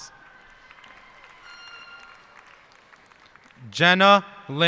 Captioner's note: cheers and applause